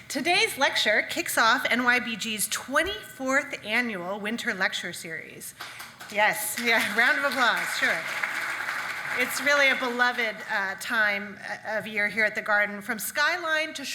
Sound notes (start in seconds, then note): 6.5 audience clapping